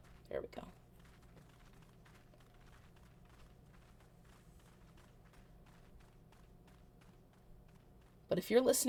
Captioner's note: surrounding footsteps on snowy rocks